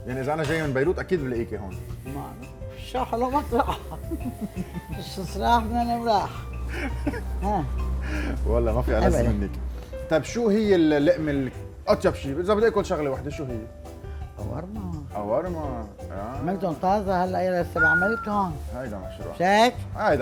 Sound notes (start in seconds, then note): 3.5 laughing